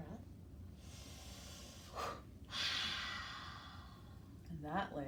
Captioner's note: breathing deeply